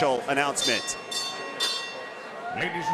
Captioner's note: bell rings